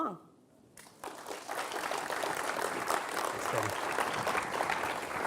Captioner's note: audience clapping